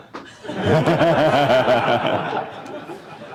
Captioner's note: laughter